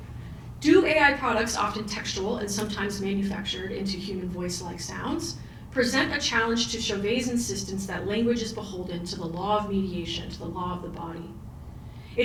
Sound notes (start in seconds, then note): none